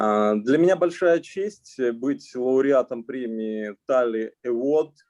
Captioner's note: speaking Russian language